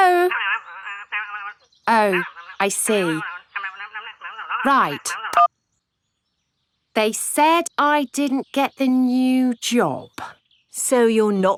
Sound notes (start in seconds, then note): 4.5 beeps